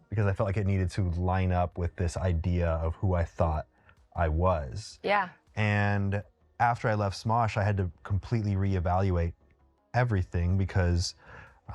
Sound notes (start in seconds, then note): none